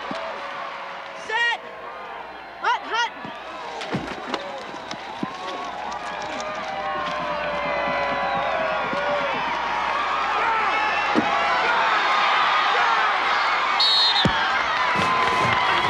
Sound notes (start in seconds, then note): 0.1 crowd chattering; 8.8 crowd cheering; 10.4 whistle shrills; 11.2 crowd applauding; 11.2 upbeat music